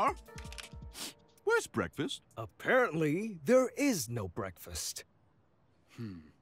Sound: sniffs

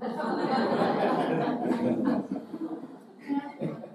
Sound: audience laughing

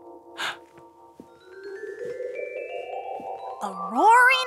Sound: Marty gasps

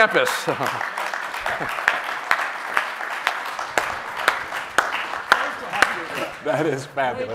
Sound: applause

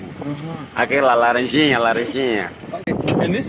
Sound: speaking Portuguese

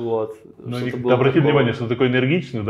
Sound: laughs

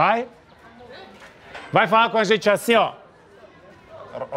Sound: speaks Portuguese

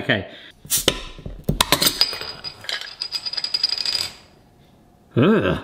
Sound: bottle top clatters; gas hisses

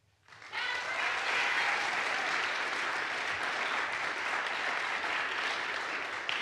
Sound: audience applauds; audience cheers

